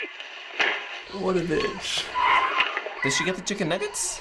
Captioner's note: tires squeal as car takes off